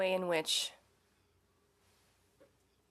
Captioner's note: speaking French